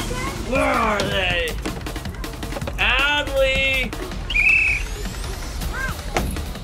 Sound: whistles

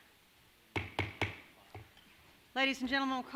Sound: thudding sound

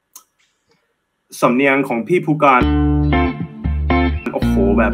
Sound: he speaks Thai

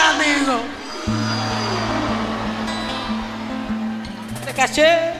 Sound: público abucheando

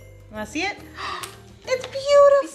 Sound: gasps

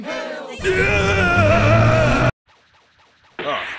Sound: MR. SATAN screams

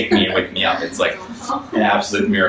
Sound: audience laughs

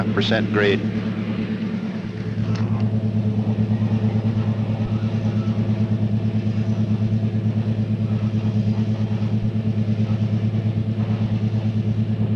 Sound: sound of the train moving

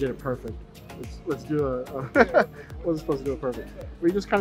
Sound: laughing

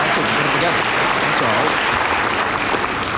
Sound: audience applause

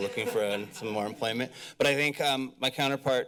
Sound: laughter

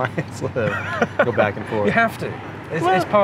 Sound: both laugh

